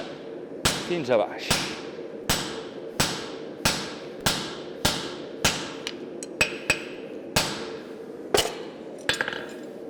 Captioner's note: sharp metallic hammering